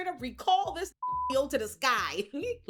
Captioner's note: beep